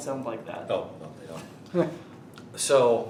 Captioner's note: interviewer laughing